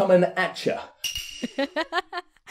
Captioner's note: laughs